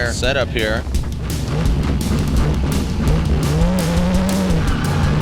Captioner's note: engine revving